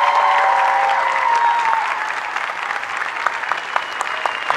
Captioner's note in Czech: potlesk